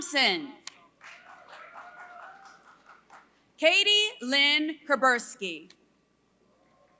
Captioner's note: applause